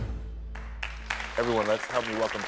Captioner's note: audience applaud